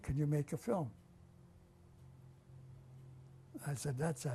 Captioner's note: pauses for 3 seconds